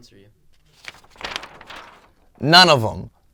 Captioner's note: paper rustles